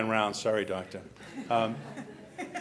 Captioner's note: laughter